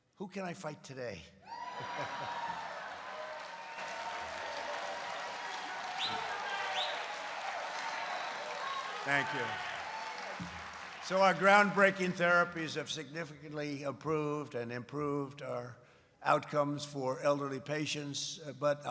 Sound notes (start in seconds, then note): 1.6 laughs; 5.1 applause